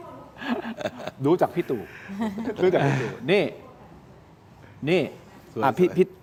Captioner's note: laughter